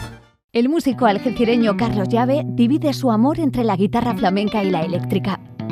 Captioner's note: speaking in Spanish